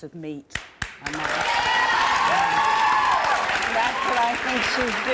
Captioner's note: applause and cheering